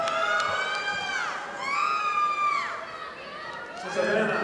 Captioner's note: audience applauding